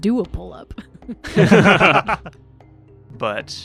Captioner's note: laughter